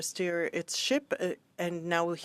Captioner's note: speaking in French